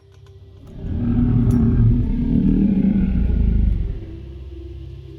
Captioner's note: creature growling